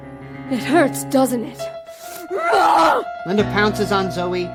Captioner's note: grunts